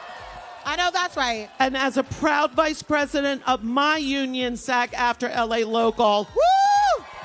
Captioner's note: applause